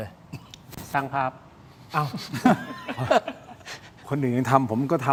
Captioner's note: laughter